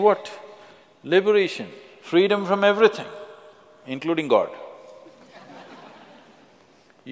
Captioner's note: laughter; 笑聲